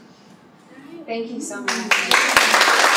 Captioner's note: applause